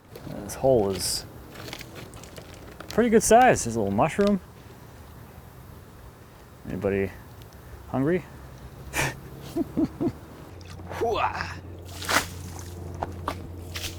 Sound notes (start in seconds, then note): 8.9 laughing